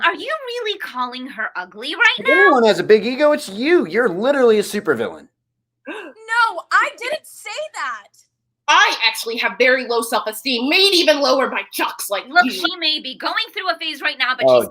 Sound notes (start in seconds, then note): 5.9 Tyra gasps